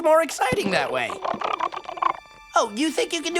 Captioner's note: chittering